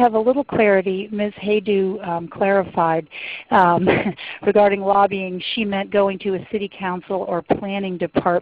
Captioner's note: laughter